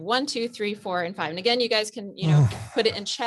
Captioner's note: sighs